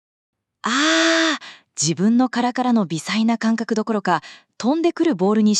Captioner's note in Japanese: 叫び声